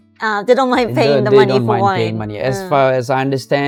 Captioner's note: laughs